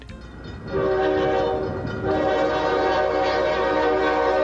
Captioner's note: train hoots